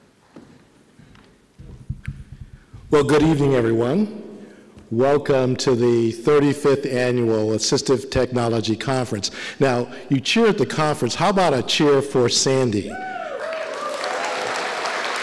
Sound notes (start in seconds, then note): 13.3 applause